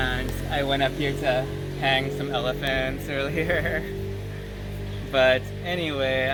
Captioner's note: laughter